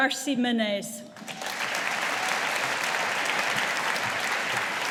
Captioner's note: audience applauding